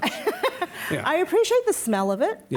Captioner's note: laughing